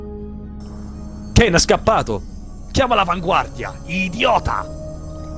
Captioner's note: renzo speaks italian